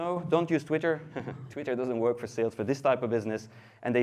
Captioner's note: laughs